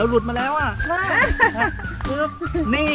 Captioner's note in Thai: เสียงหัวเราะ